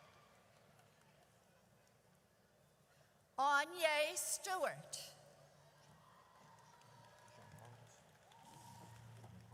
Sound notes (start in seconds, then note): 5.1 audience cheers